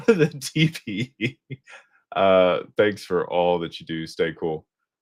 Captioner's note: laughter